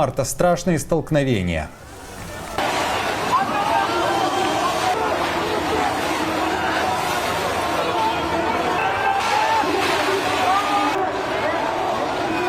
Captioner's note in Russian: шумит толпа людей